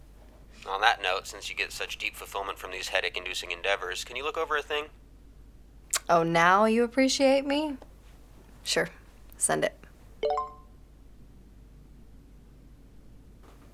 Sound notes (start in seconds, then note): 10.2 computer chimes